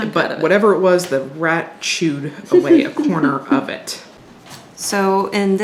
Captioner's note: everyone chuckles